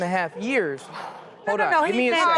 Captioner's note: audience gasps